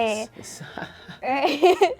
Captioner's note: laughs